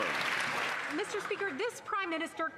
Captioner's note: some Applause